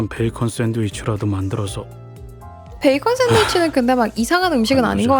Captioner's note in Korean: 웃음